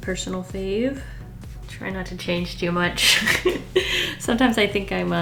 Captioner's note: laughs